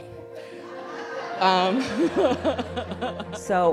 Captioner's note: laughter